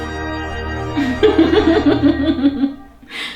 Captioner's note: giggles